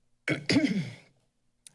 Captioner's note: clears throat